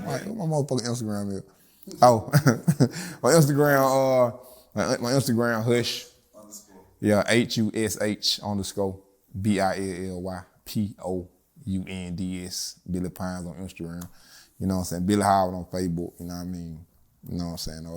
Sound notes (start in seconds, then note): 2.6 laughs